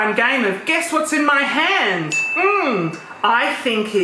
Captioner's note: bell dings